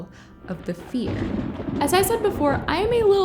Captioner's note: thunder rumbling